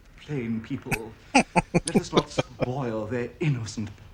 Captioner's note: laughing